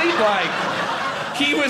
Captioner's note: audience laughing